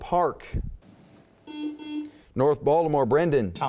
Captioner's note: buzzing